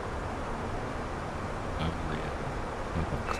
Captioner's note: radio chatter